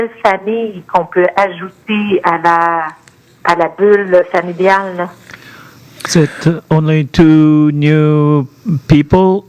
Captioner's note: speaking French